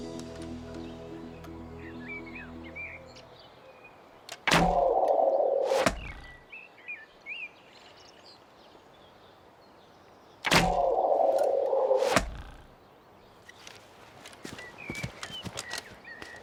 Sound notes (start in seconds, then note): 5.5 arrows whistling; 5.8 thuds